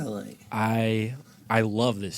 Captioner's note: none